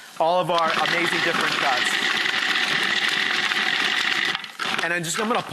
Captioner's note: food processor sound